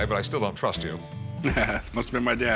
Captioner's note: laughs